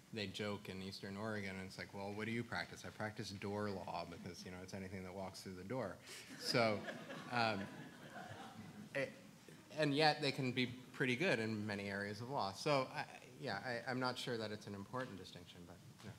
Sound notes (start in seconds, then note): 6.3 audience laughs